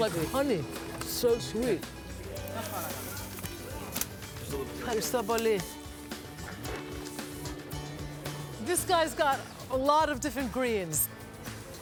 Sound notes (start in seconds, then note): 3.0 speaking in greek